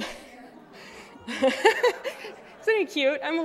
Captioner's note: laughter